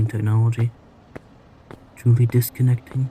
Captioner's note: the traffic grows louder